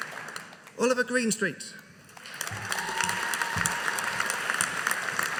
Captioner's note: audience applauding